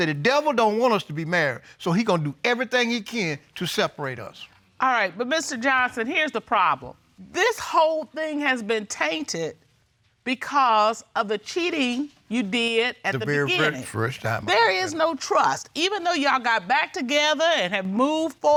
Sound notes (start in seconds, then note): none